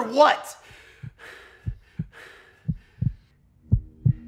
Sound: heart thumps

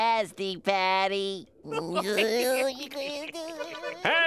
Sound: laughing

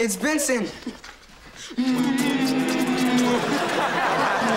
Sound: kissing; laughing

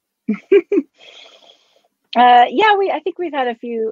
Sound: chuckles

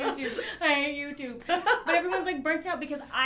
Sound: laughs

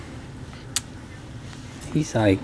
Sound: kiss

